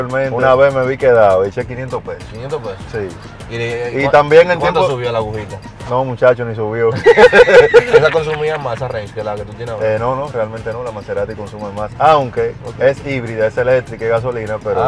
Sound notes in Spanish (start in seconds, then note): 6.9 Risas